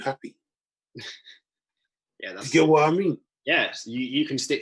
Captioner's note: chuckles